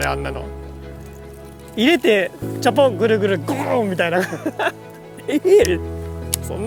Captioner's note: laughs